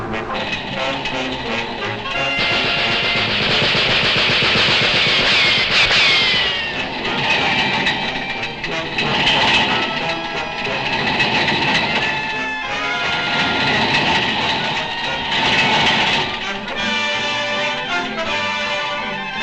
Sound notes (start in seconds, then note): 2.4 guns popping; 8.8 light dramatic music; 16.5 triumphant music